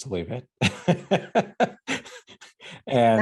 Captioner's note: laughing